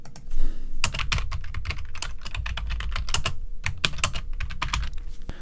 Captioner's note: keyboard clacking